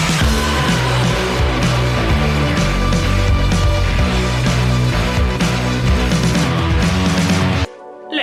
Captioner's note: air-raid siren noises